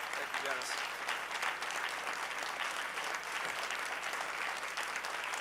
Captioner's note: audience cheering; audience cheering